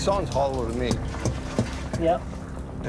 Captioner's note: thudding